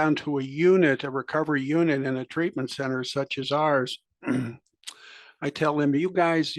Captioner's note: cough